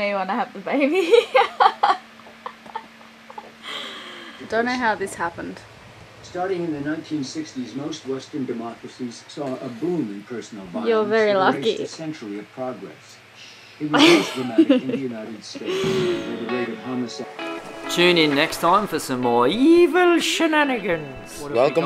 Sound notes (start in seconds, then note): 3.2 laughs; 13.9 laughs; 16.0 upbeat music